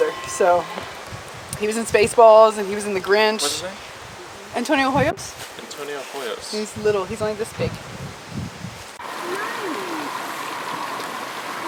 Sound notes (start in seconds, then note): 8.9 water running